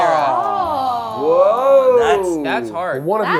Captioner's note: overlapping chatter